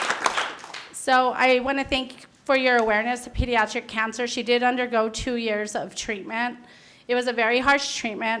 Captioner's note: applause